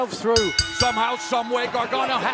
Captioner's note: bell ringing